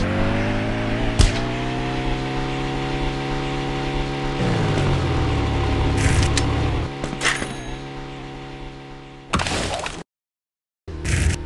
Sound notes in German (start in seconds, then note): 4.3 Dumpfes Dröhnen, Knistern; 7.3 Klingeln; 9.1 Peitschendes Geräusch, Knistern